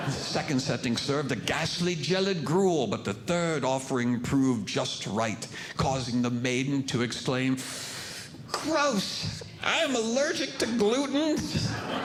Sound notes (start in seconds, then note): 0.0 audience Laughing; 7.6 sharp Inhaling